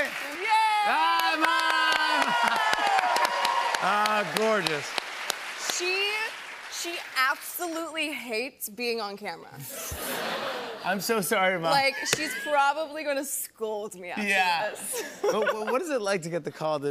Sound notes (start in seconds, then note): 3.1 cheers and applause